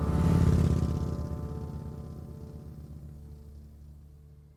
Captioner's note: vehicle motor revving